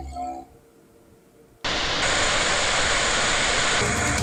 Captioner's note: waterfall sound